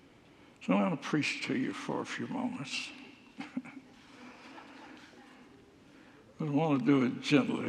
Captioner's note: laughs